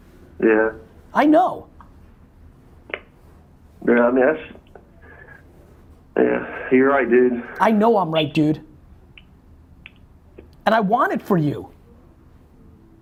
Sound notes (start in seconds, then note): none